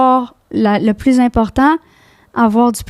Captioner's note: in french